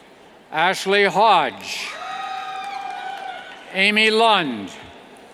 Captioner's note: cheers